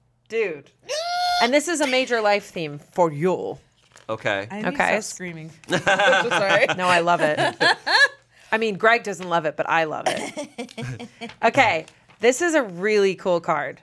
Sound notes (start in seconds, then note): 0.8 squeals; 5.7 laughs